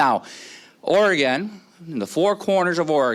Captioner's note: none